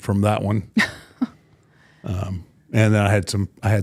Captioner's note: Michelle laughing